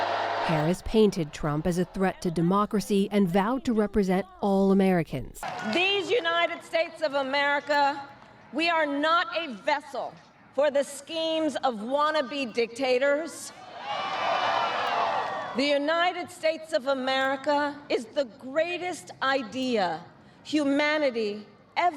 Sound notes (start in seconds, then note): 0.0 cheering; 15.5 cheering